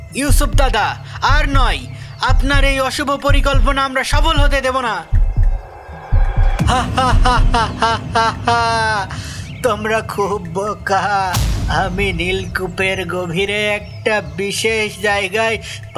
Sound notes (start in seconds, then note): 6.6 evil laugh